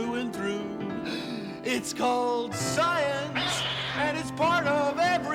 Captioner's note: <i> CAT SCREECHES</i>